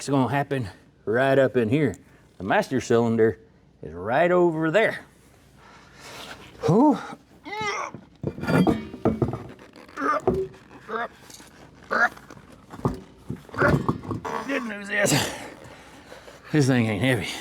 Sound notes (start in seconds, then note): 6.9 grunting